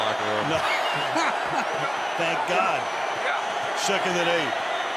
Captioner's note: laughs